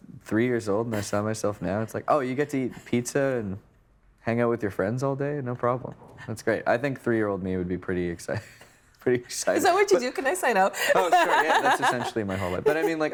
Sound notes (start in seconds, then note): 10.8 laughing; 10.9 chuckling